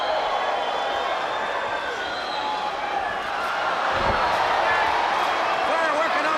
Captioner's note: crowd cheering